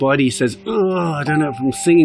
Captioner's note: shrieks